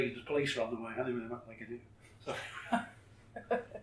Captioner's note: laughs